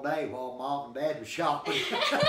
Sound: laughing

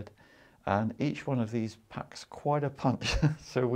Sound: chuckles

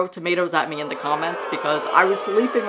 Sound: crowd Booing

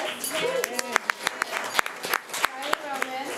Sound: audience cheering; speech drowned out by applause

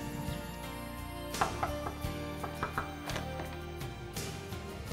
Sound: knocking on door

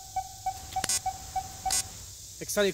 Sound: beeping stops

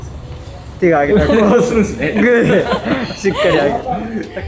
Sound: laughs

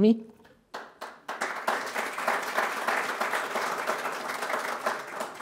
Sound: crowd applauding

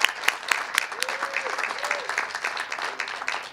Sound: cheers and applause

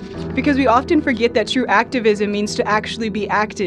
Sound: voiceover

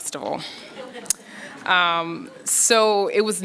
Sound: audience laughs

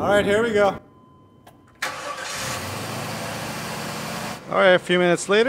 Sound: engine starts

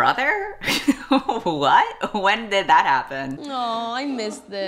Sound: laughs

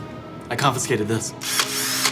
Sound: drill whirring

